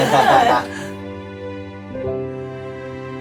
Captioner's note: laughing